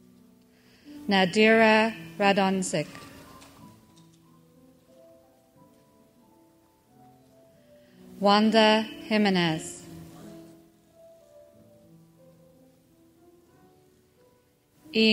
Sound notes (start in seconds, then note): none